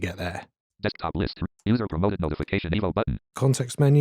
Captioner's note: automated voice